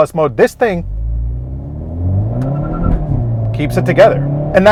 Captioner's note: car engine roaring